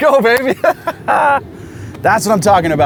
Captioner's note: laughs